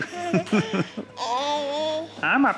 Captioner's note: laughs